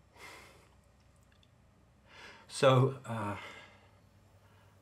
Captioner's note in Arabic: none